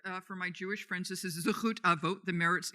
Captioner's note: speaking in foreign language